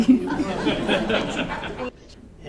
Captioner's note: laughter